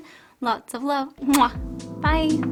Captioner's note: kisses